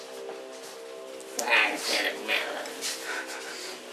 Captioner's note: more grumbling